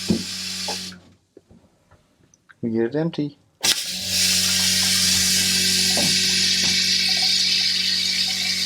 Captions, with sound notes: We get it empty. (toilet flushing)